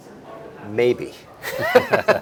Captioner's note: laughs